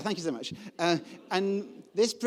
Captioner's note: audience laughing